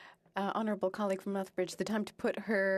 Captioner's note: speaking French